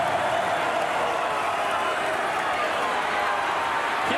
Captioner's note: applause